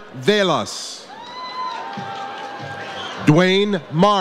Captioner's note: audience cheers